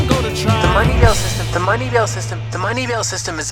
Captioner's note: echoes